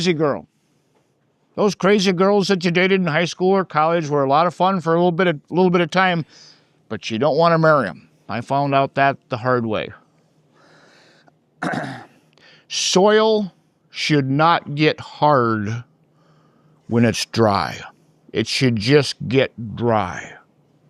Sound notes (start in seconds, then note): 11.6 clears throat